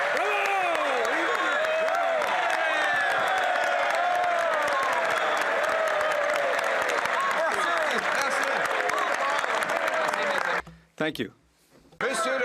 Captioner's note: some Applause